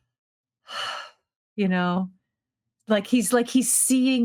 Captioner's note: sighing